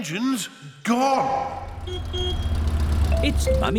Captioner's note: horn honks